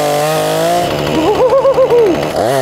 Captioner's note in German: Lacht